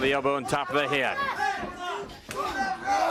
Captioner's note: crowd chatter